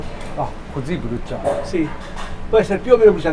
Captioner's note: Italian